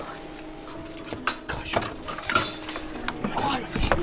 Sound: door clicks; keys jingle

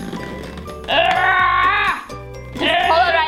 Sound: grunting

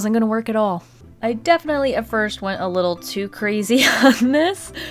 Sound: laughs

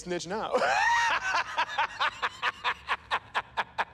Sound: laughing

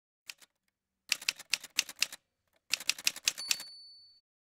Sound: typewriter sounds

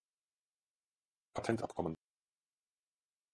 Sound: fast Pronunciation

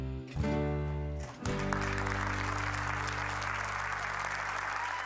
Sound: applause

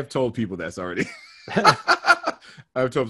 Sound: laughing

